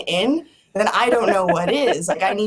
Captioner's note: laughs